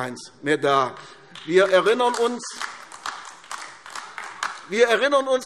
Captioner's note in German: Beifall AfD